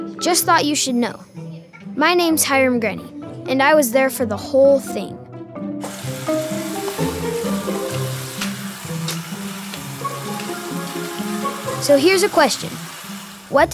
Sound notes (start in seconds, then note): 5.5 uplifting music; 5.8 tap water running